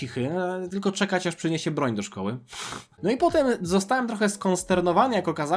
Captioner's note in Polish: parsknięcie